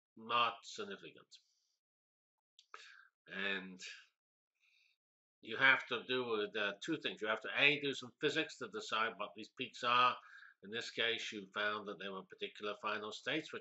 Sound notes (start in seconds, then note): 1.4 pause